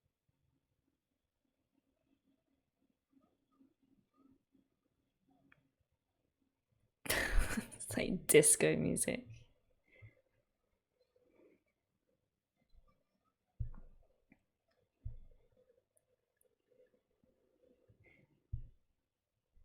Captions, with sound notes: [laughs] It's like disco music.